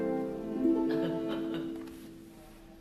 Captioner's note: laughter